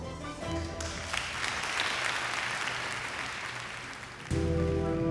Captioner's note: crowd clapping